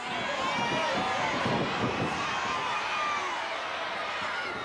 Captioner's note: audience cheering